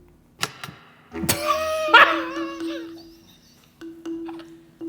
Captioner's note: graphic clanking; wheezing